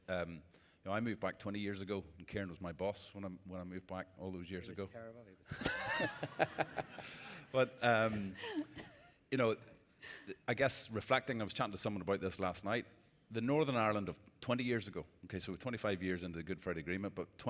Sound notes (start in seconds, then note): 5.5 laughter